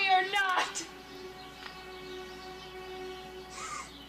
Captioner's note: woman sobbing